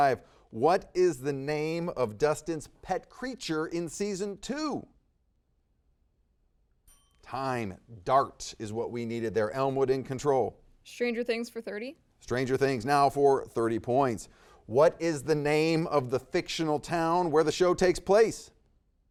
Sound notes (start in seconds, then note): 6.8 bell dings